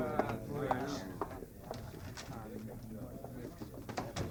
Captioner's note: footsteps